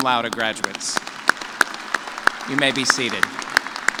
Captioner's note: cheers